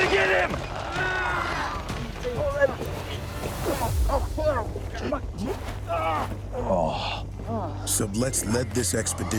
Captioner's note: men grunting